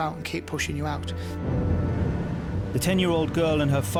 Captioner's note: boat droning